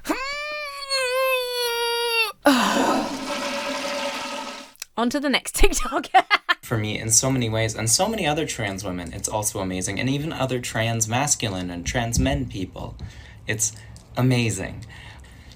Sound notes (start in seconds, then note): 0.1 grunts; 1.6 sighs; 2.5 toilet flushes; 5.7 laughs